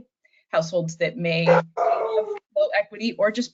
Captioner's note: dog barks